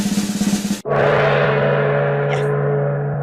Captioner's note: drum roll; gong